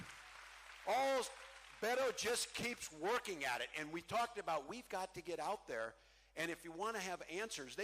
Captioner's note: cheering